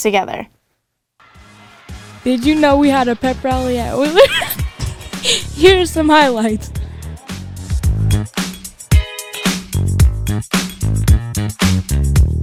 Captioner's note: laughs